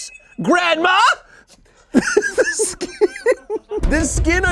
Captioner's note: laughs